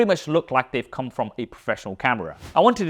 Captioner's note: air whooshes